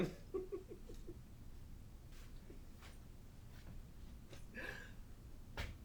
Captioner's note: Captain Brookes giggles